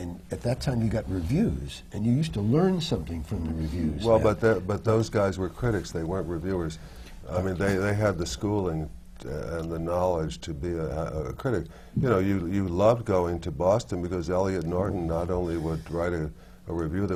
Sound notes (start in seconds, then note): none